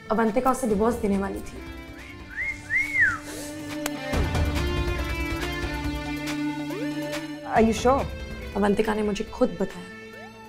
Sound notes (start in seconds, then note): 2.0 whistles